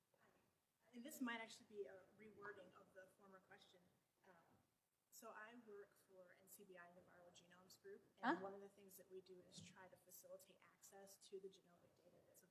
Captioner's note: away from microphone